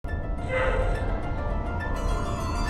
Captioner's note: screeching of metal